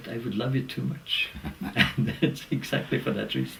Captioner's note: laugh